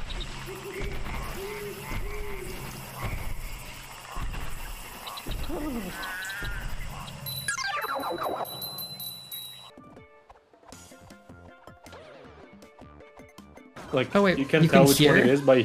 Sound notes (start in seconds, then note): 0.0 deep woods ambient sounds; 7.2 deep woods ambient sounds; 7.2 mario death sfx